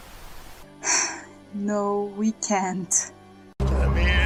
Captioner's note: sigh